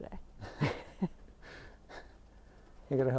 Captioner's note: laughs